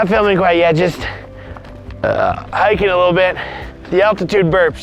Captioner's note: burp